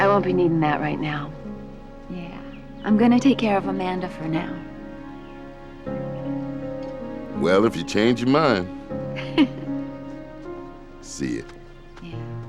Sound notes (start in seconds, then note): 9.1 giggling